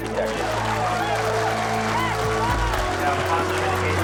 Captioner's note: crowd cheering